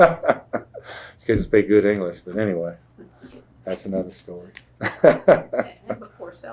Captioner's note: laughs